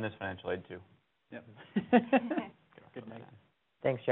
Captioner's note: laughs